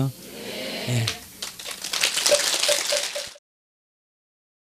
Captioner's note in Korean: 청중 박수